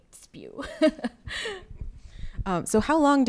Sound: laughing

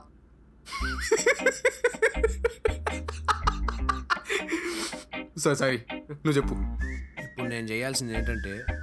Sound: laughs

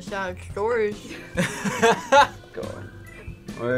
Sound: laughs

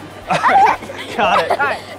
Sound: laughs

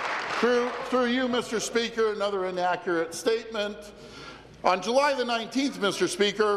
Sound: applause

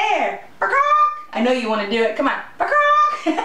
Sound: giggling

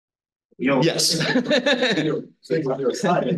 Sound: instructor laughs

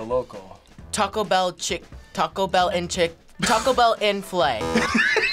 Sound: buzzer; Taco bell laughs

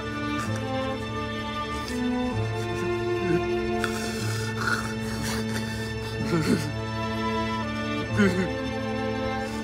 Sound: crying; hard breathing

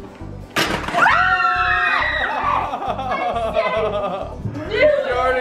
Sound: screaming

